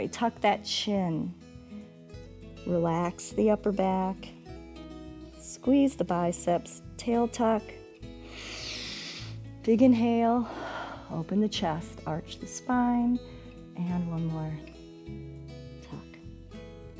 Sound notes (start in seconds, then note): 8.2 inhales; 8.2 exhales